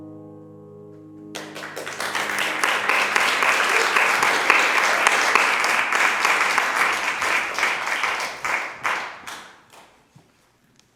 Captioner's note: applause